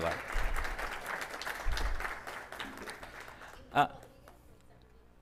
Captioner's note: audience applauding